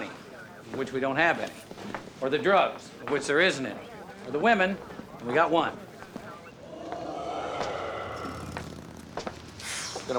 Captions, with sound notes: of which we don't have any. Or the drugs, of which there isn't any. Or the women, and we got one. (recording of deep growling plays)